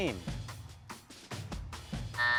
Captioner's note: buzzer buzzing